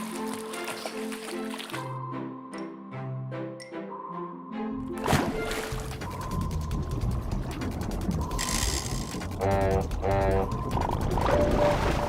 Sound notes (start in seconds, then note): 9.4 honking